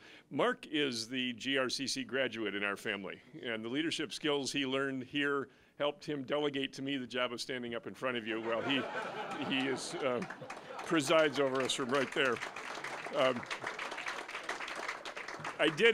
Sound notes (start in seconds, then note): 8.4 audience laughing; 13.2 applause